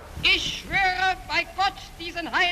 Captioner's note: speaking in German